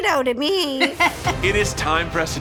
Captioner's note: judge laughs